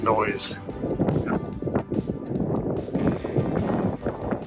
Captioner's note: wind rustling